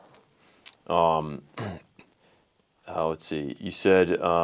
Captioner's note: clears throat